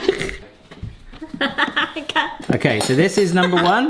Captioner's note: laughing